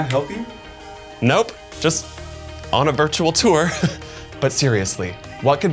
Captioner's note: chuckles